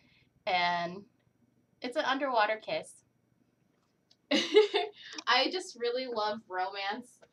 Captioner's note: laughter